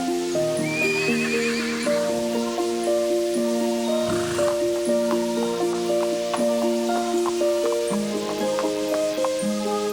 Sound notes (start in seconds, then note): 0.6 whinnying; 4.0 snorting